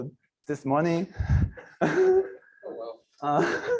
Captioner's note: laughter